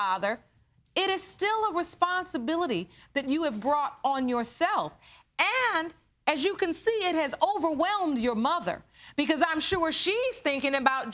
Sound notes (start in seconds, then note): none